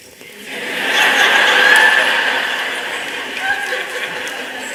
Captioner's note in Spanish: Risas